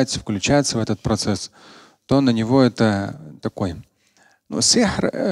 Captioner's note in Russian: говорит на арабском